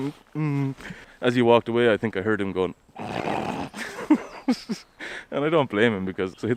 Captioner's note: snickering